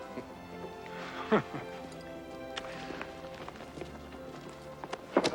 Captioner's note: Jubal laughs